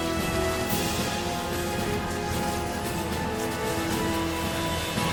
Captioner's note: Ozz muttering